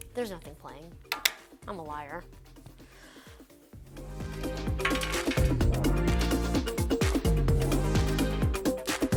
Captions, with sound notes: There's nothing playing. I'm a liar. (gasps) (upbeat music)